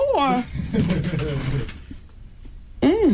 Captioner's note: laughter